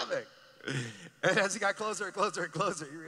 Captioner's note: laughing